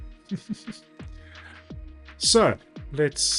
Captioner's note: laughs